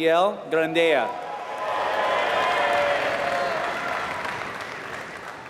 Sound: applause

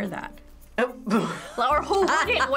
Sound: laughing

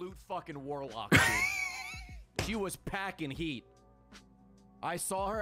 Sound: laughs

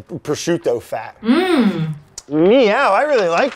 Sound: Elizabeth hums

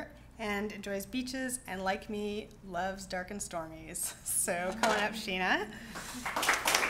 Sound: clapping

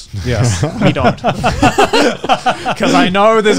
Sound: chuckling

